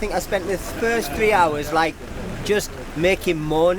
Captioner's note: laughs